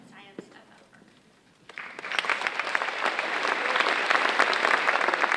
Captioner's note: audience applauding